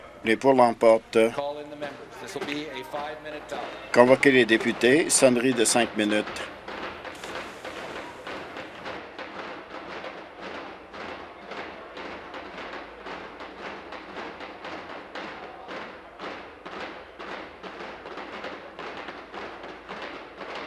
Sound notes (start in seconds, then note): 8.8 rapping on desks